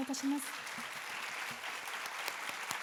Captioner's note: applause